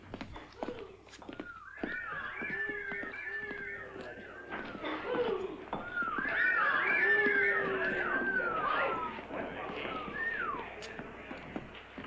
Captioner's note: whistling cat calls